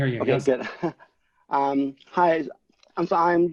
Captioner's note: laughs